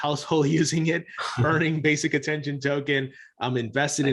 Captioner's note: chuckles